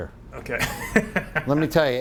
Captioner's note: laughs